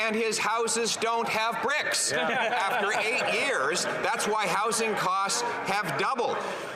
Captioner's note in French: voix de l'interprète